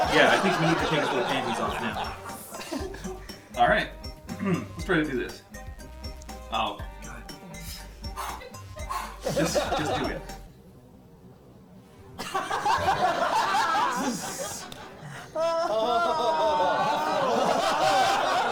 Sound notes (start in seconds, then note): 6.9 prepared breathing; 12.2 laughter; 15.7 audience reacts